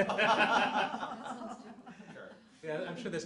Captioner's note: laughter